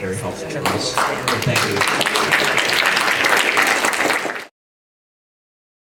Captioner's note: audience applauding